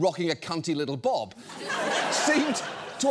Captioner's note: audience laughs